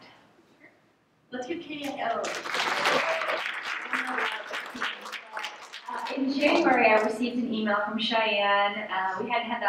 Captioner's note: applause